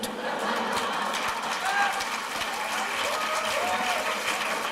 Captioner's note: laughter, applause